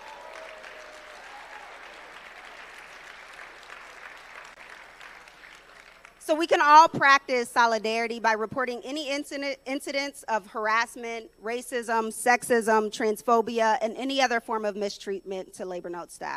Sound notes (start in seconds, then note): 4.3 applause